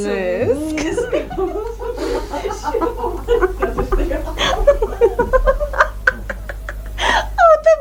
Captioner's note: the women laugh